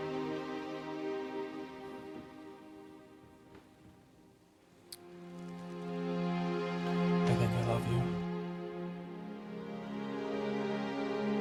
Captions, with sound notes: (lips smack) I think I love you.